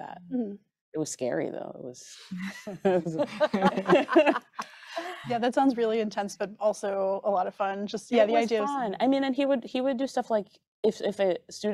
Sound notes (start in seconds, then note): 2.4 group laughing